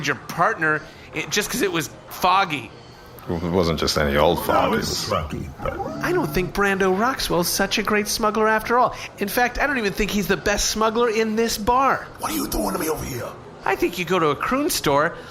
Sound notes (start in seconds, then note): 11.6 whispering